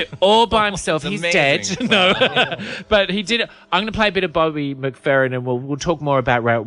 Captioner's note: laughs